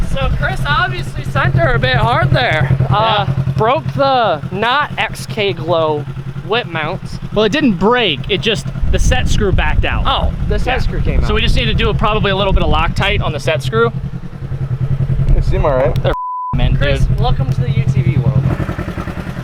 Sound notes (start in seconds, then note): 16.1 beep